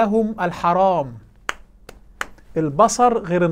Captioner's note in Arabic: تصفيق